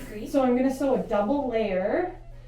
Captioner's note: exhales